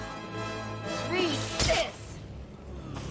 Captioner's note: tense music; thud